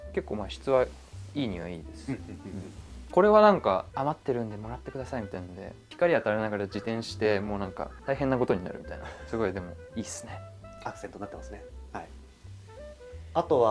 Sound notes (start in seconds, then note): 9.0 laughs